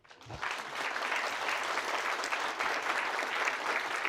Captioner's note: audience applauds